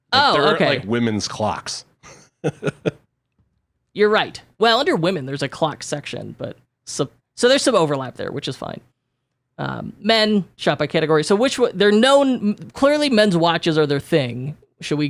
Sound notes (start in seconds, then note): 2.0 laughs